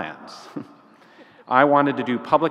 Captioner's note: laughs